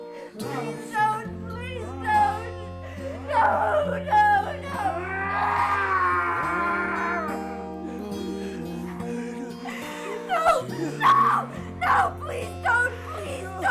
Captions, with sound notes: Please don't, please don't! [sobs] No, no, no! [Skull-Faced Assailant shouts] No, no, no, please don't, please don't!